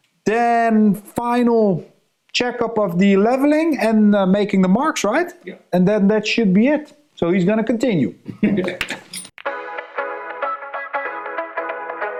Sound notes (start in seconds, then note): 8.3 chuckles; 9.4 upbeat music